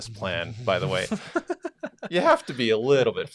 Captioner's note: laughing